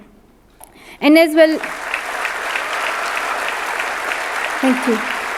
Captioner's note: audience clapping